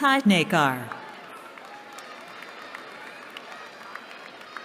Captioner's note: cheering